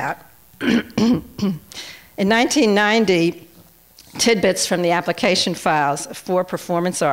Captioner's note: clears throat